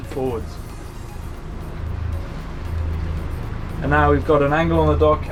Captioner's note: engine revving